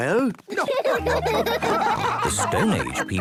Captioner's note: laughing